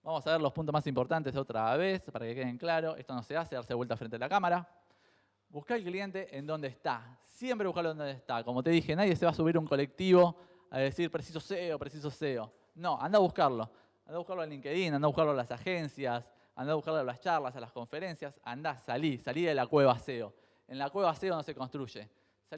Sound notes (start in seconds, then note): 3.2 jokingly